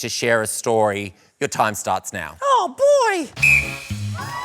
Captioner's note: falsetto; blows whistle